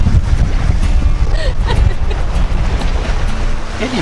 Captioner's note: giggles